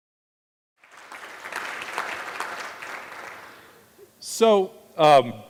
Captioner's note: audience applauding